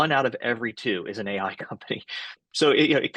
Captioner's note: laughs